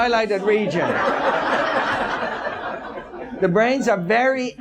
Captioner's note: audience laughs